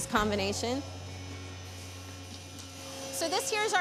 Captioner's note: machine whirring